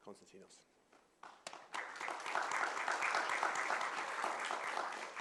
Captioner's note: applause